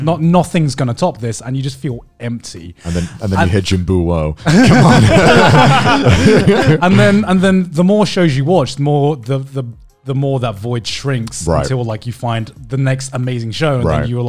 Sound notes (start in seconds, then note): 4.5 laughing lightly; 6.0 laughING loudly